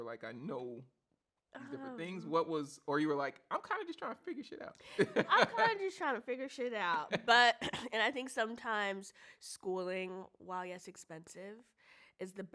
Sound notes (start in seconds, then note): 5.0 laughs